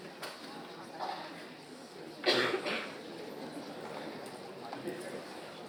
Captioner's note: indistinct audience chatter